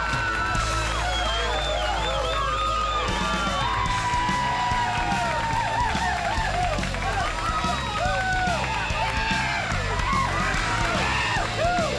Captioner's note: crowd cheering